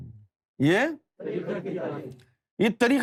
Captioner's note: audience repeats